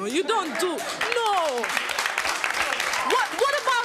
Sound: clapping

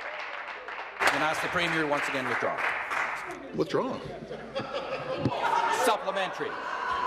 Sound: some Applause

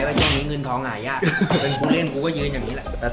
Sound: chuckles

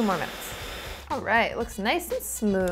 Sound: blender whirring

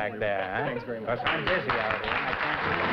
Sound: applause

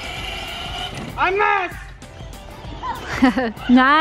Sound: shouts

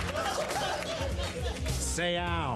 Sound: applause

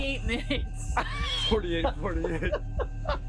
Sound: laughter

